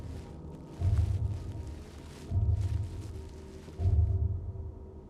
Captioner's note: bubble wrap rustling